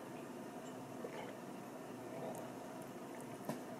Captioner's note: gulp